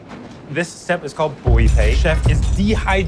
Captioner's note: speaks in foreign language